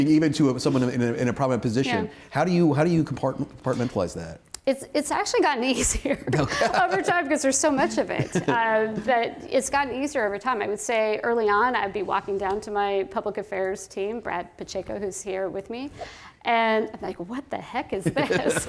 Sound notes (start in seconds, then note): 5.8 laughter